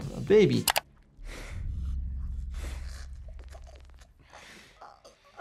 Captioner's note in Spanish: Elisabeth jadea